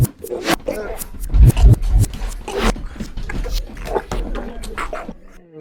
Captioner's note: choking